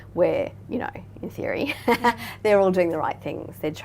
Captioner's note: laughing